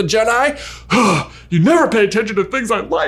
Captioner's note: man sighs